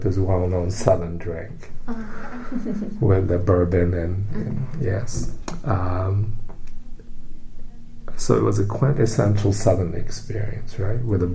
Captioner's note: laughs